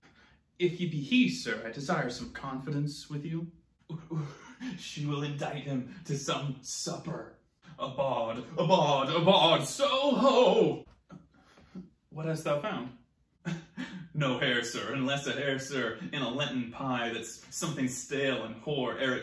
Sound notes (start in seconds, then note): 13.4 giggle